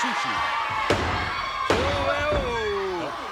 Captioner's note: hand thudding